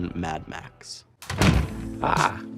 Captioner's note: door thuds; upbeat synth music